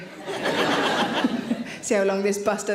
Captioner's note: audience laughing